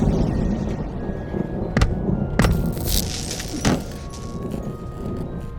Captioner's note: loud thunder & lightning strike; loud bump on the desk & object crashes to the floor